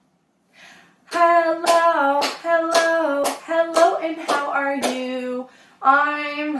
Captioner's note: clapping